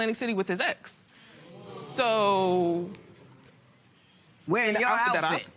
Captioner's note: spectators murmur